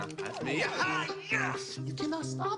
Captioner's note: excited yelling